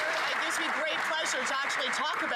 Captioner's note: some Applause